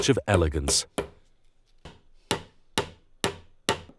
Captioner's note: hammer banging